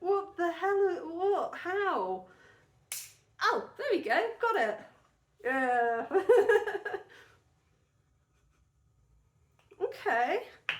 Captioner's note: laughing